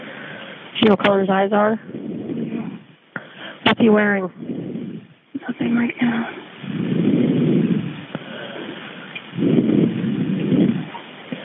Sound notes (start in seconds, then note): 7.9 recording hissing